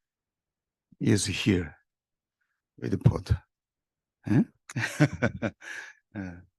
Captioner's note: laughs